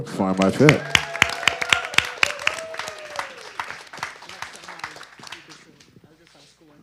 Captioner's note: audience cheering and applause